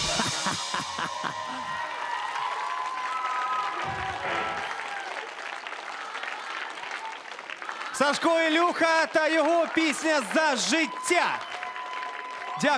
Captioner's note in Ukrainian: оплески